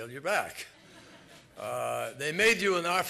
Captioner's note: laughter